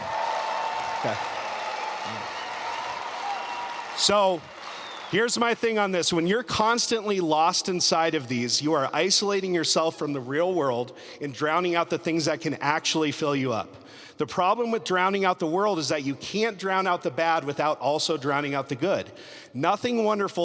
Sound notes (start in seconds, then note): 6.2 applause